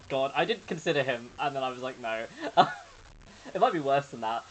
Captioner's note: laughs